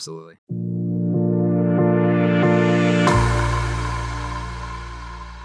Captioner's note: logo whooshing